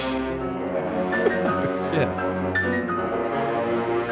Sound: chuckling

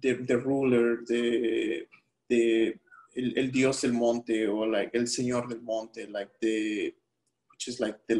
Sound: speaking spanish

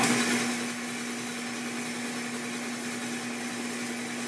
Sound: machine whirring

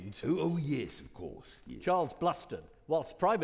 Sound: none

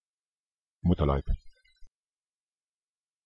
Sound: fast Pronunciation

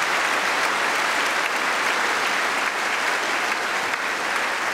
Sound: cheering & Applause

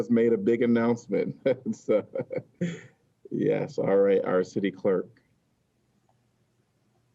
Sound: laughter

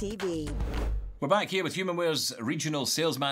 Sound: air whooshing

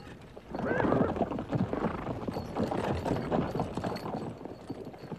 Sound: horse sounds

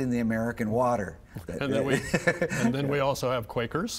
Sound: laughing

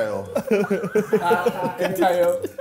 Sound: laughing

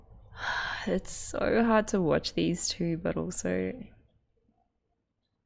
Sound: exhales

